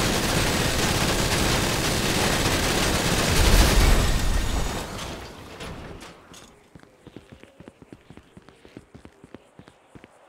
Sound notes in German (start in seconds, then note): 2.2 Auto explodiert von Beschuss auf Glas